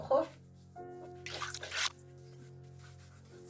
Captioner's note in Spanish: sonido de agua